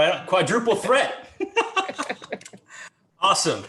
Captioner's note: everyone chuckling